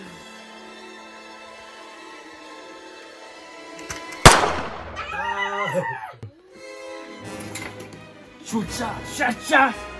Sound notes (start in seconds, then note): 4.9 screaming; 8.3 threatening each other in chinese